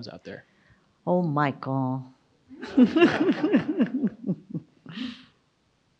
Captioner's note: audience laughs